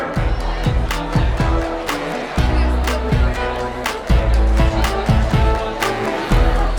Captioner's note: students chattering; upbeat music continues